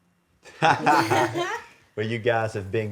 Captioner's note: and judges laughing